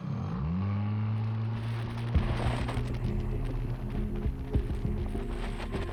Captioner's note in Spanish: motor ruge